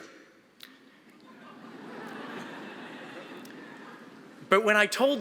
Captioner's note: audience laughing